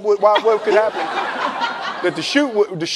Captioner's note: laughing